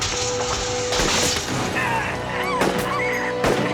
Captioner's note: car crashing; officer groaning; rifle blasting; woman screaming